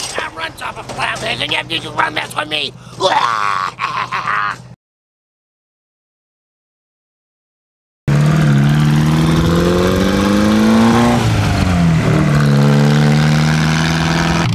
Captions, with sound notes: My car runs off of flatlanders and you can run that for me [vomit cackling sounds] [Wolfmanmobile accelerating sounds]